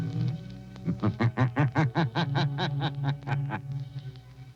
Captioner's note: ominous laughter